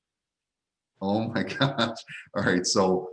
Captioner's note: laughing